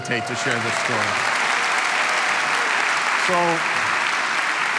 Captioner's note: crowd cheering